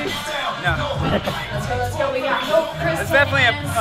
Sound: laughs

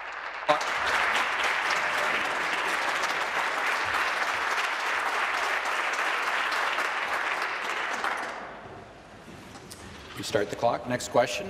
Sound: applause

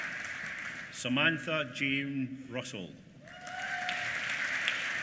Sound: applause

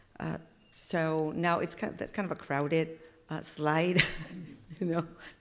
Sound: laughs

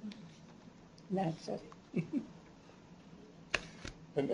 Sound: chuckles

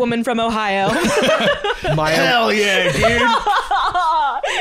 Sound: all laughing

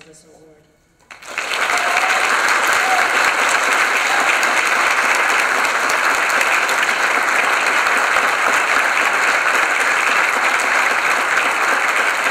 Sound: applause

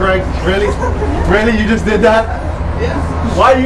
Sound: laughs

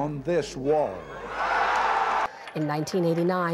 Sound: cheering and applause

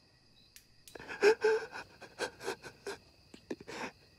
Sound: Chad sobbing

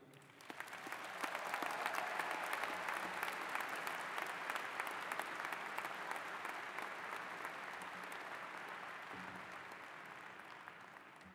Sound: applause

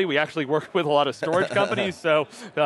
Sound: laughs

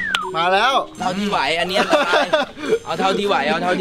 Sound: laughs

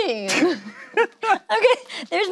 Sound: laughing

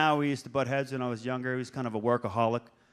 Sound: none

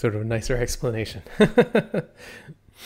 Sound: laughs

